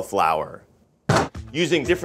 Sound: cauliflower dropping

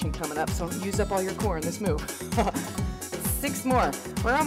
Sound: laughs

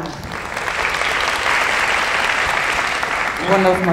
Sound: applauding

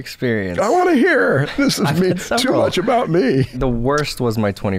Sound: chuckles

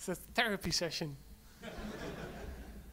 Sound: audience laughs

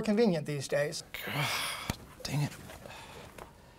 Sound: sighing

